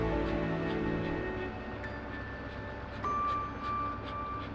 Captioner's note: panting